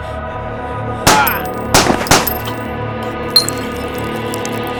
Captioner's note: gun firing